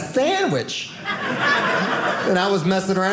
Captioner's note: audience laughing